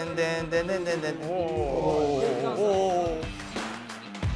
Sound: hearts thumping in anticipation

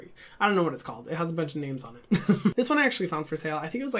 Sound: laughing

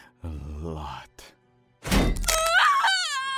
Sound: screams

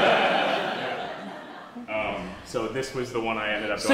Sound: class laughs

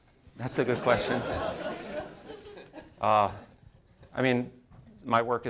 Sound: audience laughing

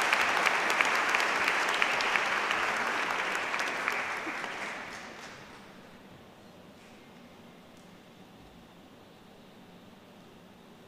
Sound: applause

